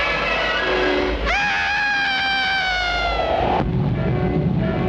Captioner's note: Roderick screams